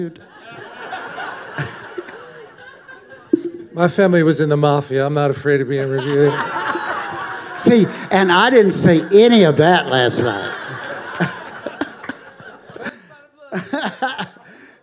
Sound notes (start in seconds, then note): 0.1 congregation laughing; 6.3 congregation laughing